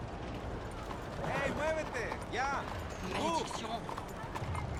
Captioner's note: to Arthur, in Spanish